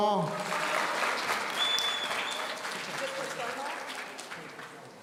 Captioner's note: audience cheering